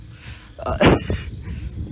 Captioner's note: the king laughs